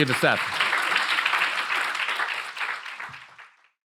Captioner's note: attendees clapping